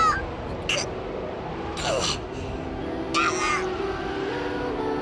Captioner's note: characters continue yelling